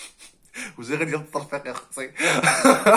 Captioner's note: laughing